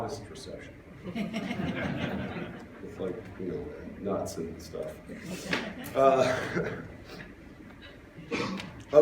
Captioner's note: laughter